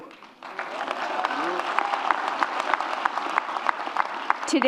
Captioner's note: audience claps